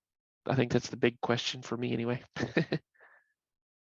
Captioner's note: laughs